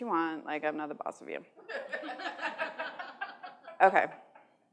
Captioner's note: laughter